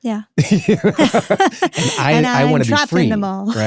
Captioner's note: both laughing